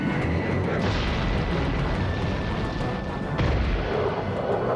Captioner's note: rocket whooshing; explosions booming